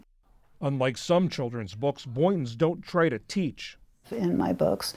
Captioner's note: voice-over